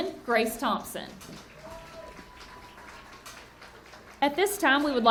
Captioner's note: audience cheering and clapping